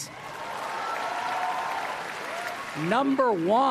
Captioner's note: applause